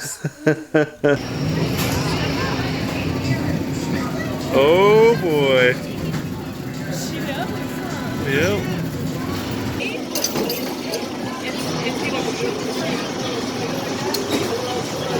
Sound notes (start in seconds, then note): 0.0 laughs; 10.2 coin clattering; 12.1 people chattering